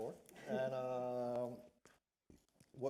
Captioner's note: laughter